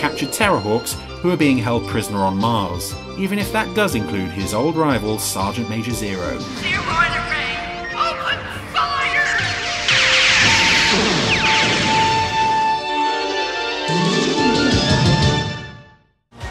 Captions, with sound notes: the captured Terrahwaks who are being held prisoner on Mars, even if that does include his old rival, Sergeant Major Zero. (explosions) (electronic music)